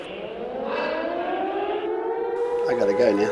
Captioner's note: sirens